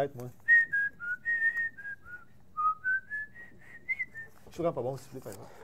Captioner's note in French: siffle, les yeux fermés